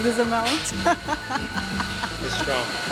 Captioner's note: laughs